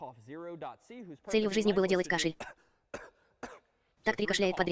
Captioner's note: coughing